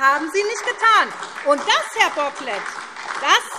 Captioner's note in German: Beifall SPD, Freie Demokraten und DIE LINKE